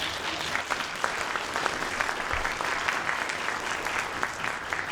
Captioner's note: audience applauding